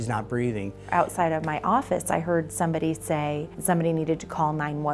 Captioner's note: voiceover